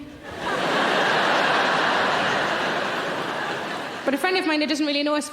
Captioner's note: audience laughing